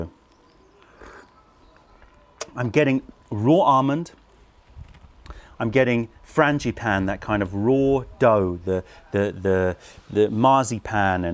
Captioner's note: sips tea